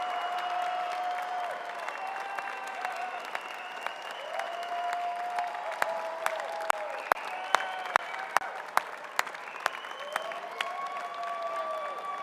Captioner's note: applause